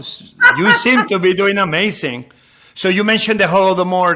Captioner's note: Padma crows